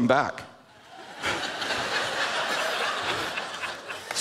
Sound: laughter

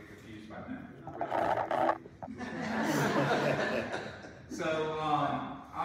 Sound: audience laughs

